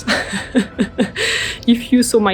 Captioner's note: laughs